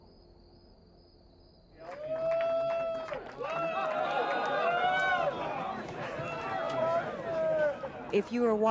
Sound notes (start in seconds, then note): 0.0 crickets chirping; 4.1 crowd cheering